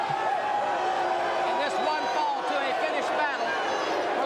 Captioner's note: crowd cheering